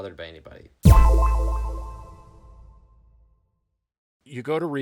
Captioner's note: sharp tone echoing